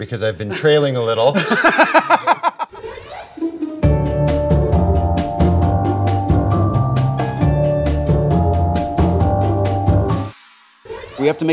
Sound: laughter

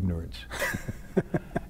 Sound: laughter

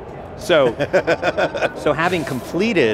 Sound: laughs

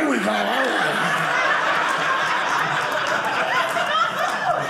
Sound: audience laughing

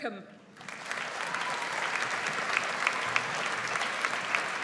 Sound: audience applauds

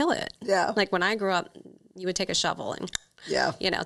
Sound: clicks

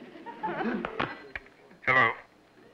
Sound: on phone

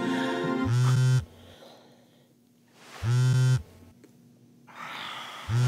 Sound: phone vibrates

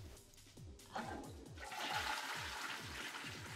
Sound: toilet flushes

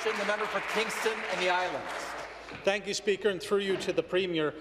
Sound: applause

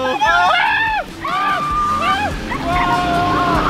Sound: boys screaming

